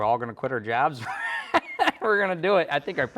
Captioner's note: both laughing